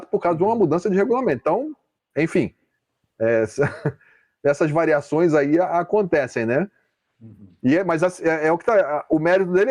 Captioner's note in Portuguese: risadas